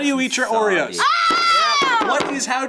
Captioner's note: screams